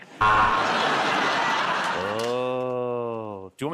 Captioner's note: buzzer